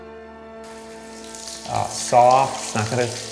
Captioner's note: water running